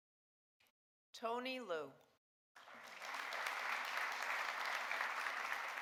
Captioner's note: audience applauding